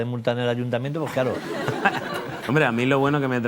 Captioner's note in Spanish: Risas